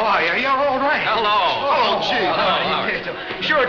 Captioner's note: men chattering